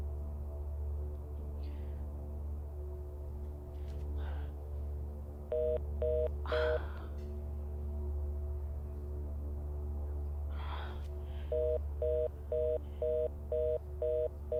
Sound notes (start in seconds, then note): 0.2 dramatic music continues; 5.5 phone beeping; 6.4 Abbey sighing; 9.3 dramatic music continues; 9.3 phone beeping